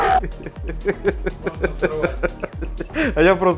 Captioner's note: giggling